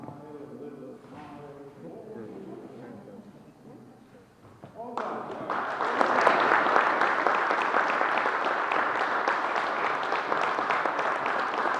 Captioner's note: applause